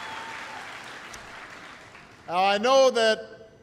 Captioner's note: applause